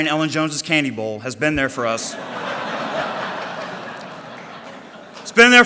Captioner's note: audience laughter